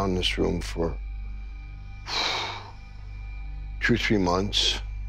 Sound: exhales

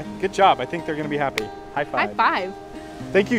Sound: hand slaps

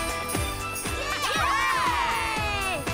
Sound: upbeat music; cheering

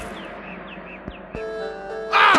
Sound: screams

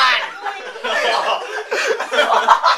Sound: laughter

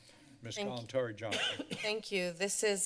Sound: coughing

